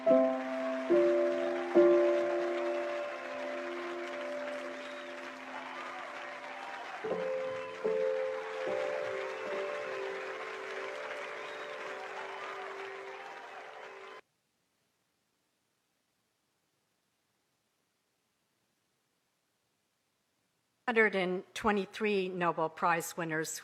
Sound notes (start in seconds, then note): 13.5 applause